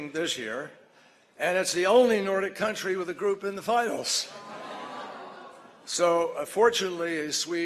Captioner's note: laughter